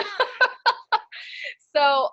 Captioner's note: laughs